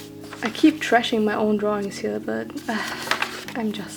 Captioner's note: sighs